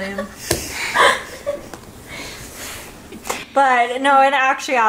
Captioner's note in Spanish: se ríe